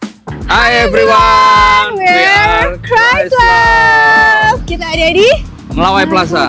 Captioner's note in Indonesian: berteriak